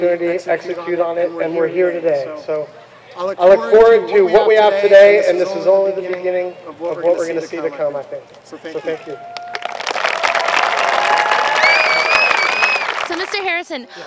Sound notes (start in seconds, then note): 9.3 applause